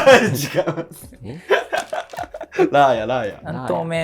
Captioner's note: laughing